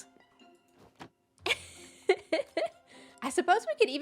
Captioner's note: laughs